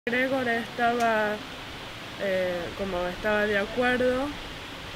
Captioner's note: spanish